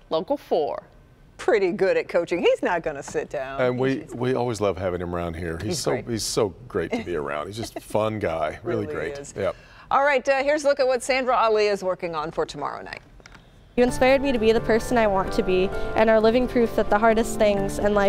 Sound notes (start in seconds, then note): 6.9 laughs